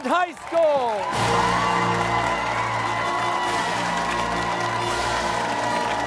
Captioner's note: cheers and applause